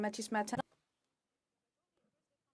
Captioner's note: speaking French